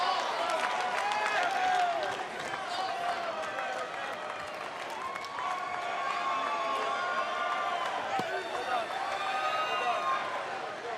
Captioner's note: fans chanting